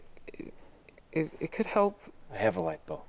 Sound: stammers

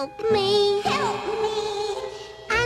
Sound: echoes

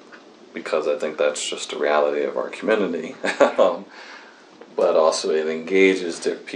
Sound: laughs

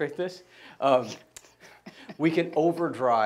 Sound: laughing

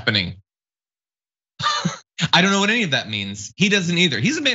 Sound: laugh

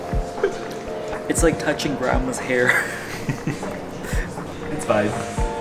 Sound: laughing

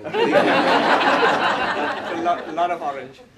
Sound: laughter

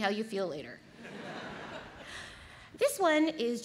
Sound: audience laughs

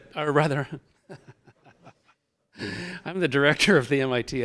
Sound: chuckling

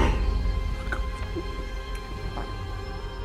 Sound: gurgling

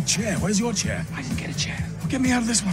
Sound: whispering

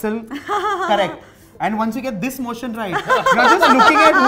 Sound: laughter; laughter

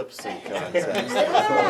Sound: members laughing

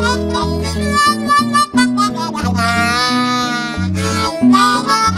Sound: wahs and wails

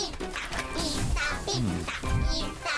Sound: sizzling

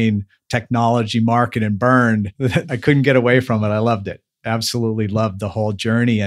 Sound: laughs

